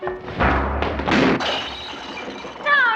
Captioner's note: crashing